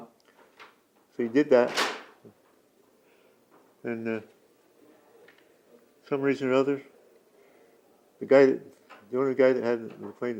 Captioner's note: door opens and closes